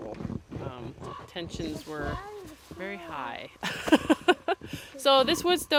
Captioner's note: laughs